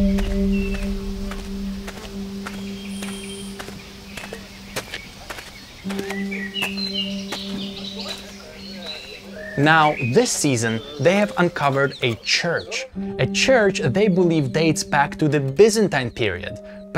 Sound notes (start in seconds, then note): 1.2 footsteps crunching